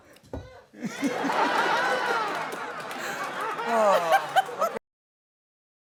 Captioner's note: laughter